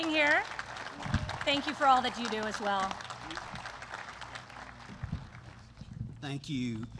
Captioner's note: applause